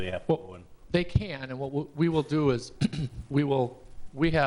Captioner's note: clearing throat